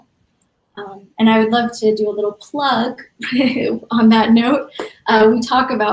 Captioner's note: laughs